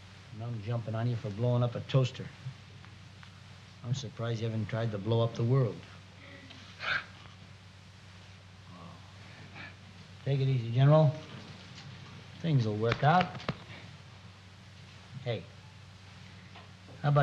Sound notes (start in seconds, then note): 6.9 crying